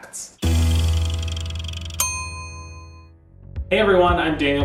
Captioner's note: bright music; timer chimes